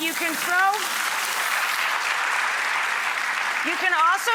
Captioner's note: audience applauds